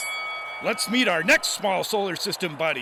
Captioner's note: bell rings